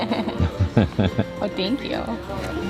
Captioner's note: laughter